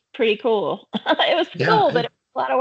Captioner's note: chuckling